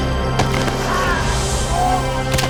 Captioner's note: tense music; student groaning; arm cracking